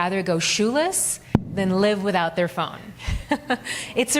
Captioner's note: chuckles